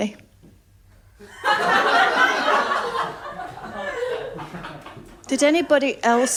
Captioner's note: laughter